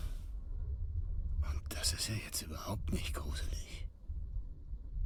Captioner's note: whispers